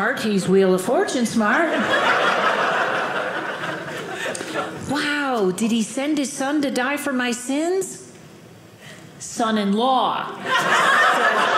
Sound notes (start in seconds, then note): 1.6 audience laughing